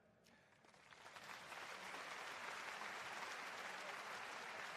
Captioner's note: applause